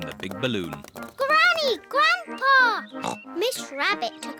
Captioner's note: oinks